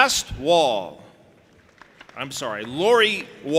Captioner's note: audience applauding and cheering